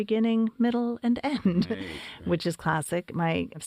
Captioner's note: laugh